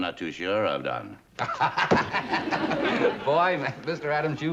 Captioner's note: laughs